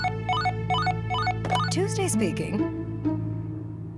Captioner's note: phone ringing